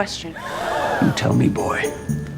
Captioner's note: gasp